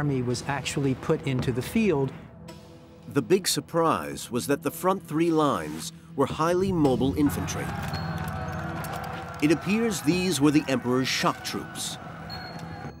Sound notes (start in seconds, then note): 7.2 soldiers yelling